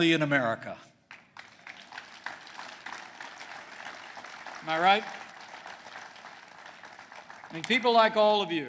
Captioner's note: applause